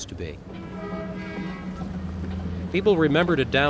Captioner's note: horns honking